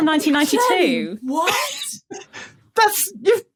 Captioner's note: wheezes